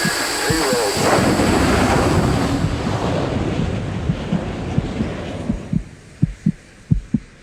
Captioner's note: heartbeat thudding; engines roaring